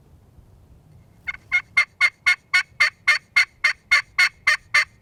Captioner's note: turkey call